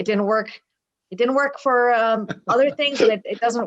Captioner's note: laughing